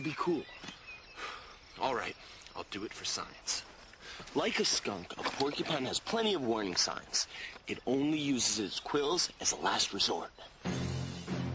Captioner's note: sighs